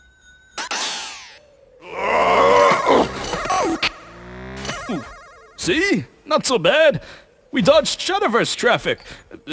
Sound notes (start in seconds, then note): 1.8 Sl4sh & Fatal yell & grunt; 4.6 Majin grunts